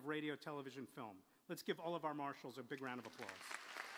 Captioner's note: applause